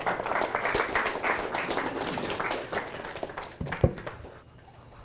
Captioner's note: audience applauding